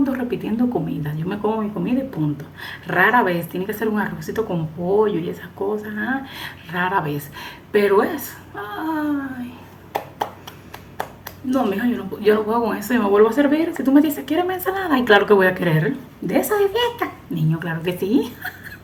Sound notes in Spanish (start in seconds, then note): 18.2 risas